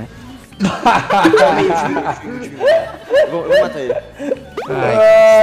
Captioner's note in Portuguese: risos